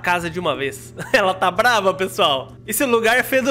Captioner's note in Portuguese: risos